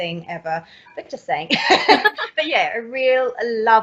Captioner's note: laughs